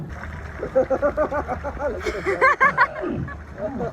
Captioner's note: laughter